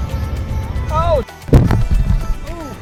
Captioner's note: bump